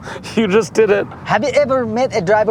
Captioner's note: laughs